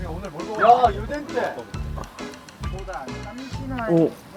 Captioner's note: sniffing